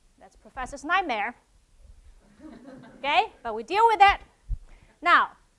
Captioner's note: laugh